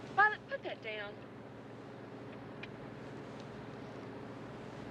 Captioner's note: none